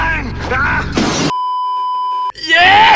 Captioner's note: beeeeeeeeeeeep